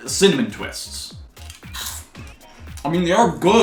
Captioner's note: cronch